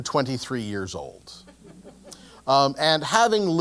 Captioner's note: laugh